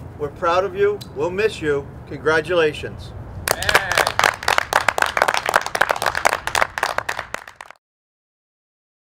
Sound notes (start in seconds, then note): 3.4 applauding